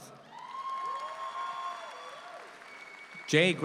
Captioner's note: audience applauds